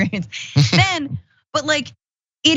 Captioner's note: laugh